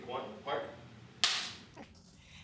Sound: slate clapping

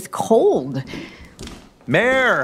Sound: footsteps

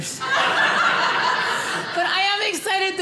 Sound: audience laughing

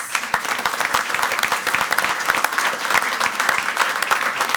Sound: crowd clapping

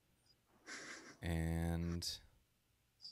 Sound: laughs

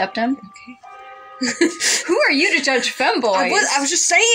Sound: laugh

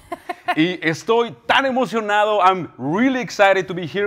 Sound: speaking in foreign language

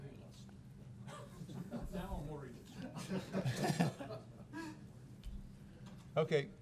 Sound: chuckling

